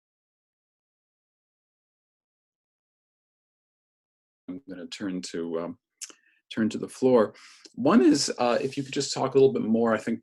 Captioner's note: audio out